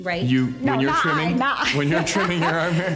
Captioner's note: laughs